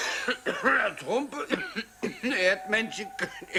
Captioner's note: coughing